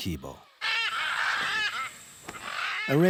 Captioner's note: birds crowing